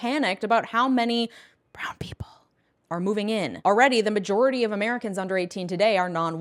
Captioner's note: whisper